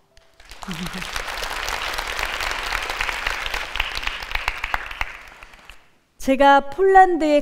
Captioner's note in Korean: 박수